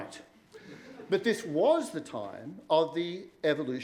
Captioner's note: laughter